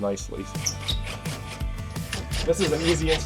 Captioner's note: tool whirring